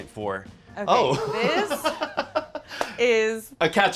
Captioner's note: laughs